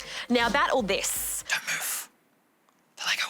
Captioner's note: whispers